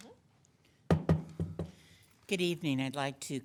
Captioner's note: gavel knocking